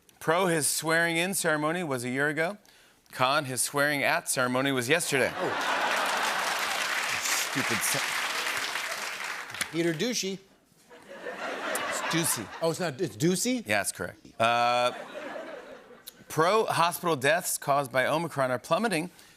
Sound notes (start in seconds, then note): 5.2 laughter and applause; 10.9 laughter; 14.6 laughter